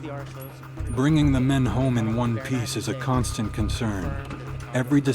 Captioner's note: voiceover